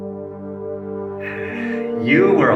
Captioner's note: sighs